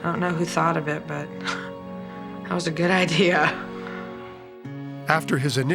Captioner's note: laughs